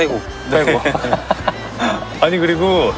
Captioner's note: hahaha